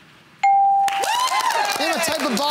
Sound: cheering

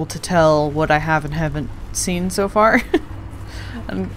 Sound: laughs

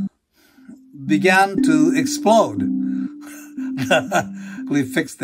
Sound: laughing

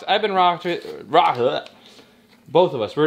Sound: slurs words

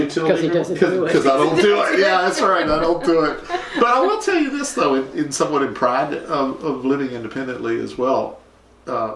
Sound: laughter

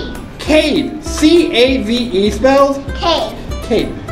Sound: voiceover

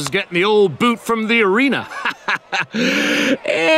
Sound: laughing

